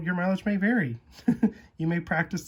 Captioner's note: laugh